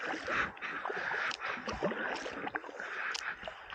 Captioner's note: paddling